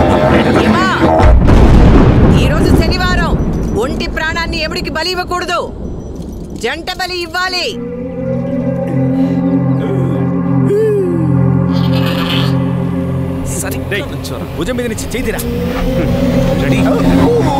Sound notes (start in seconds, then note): 11.7 goats bleats